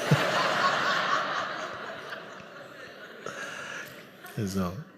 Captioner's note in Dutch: gelach